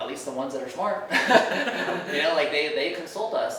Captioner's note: laughing